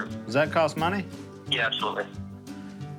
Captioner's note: on phone